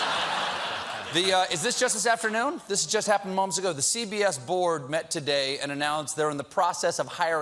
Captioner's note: laughter